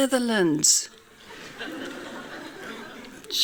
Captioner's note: laughing